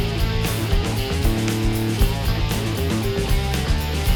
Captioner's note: none